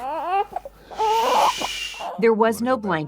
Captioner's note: crying